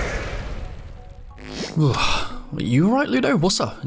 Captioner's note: sigh